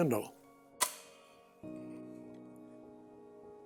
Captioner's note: clicking